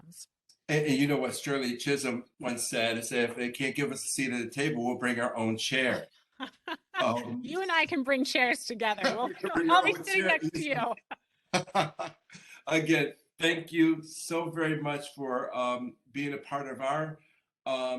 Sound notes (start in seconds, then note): 9.0 laughter